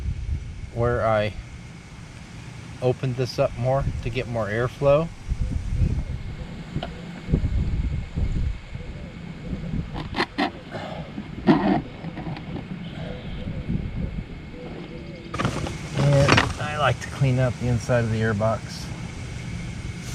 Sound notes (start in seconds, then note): 5.8 wind blowing; 10.0 exhaling; 10.1 filter shifting